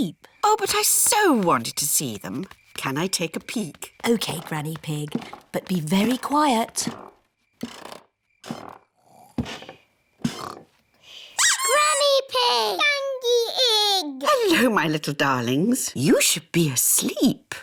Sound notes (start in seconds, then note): 7.2 stairs creak softly; 10.2 both snore; 11.4 duck squeaks